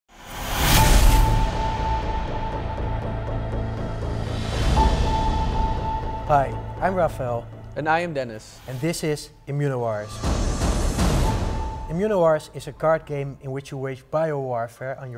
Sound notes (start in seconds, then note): 0.2 electronic transition; 10.0 electronic pulses